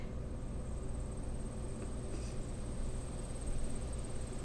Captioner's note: insects chirping